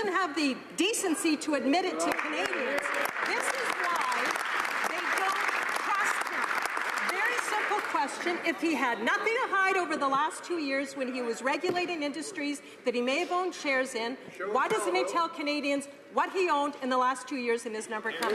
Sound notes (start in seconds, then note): 6.6 some Applause